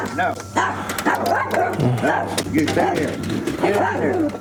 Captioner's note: dogs barking